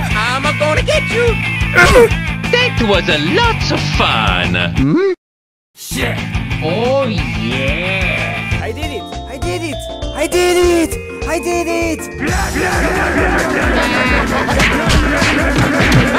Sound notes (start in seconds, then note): 13.6 crying